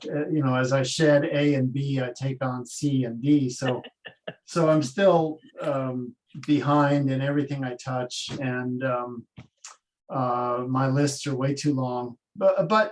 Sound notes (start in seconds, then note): 3.6 laughs